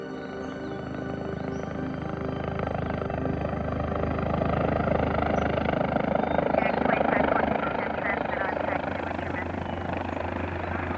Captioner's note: helicopter approaching